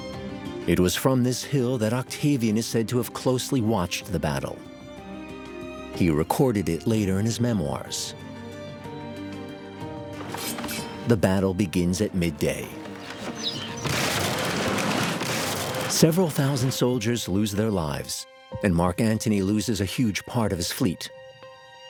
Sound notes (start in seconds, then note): 9.3 swords whirring; 12.7 ramming sounds